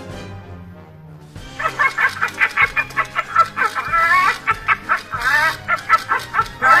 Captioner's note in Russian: Зловеще смеётся от радости